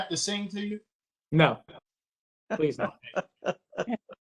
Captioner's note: laughter